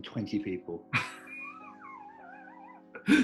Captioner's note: giggling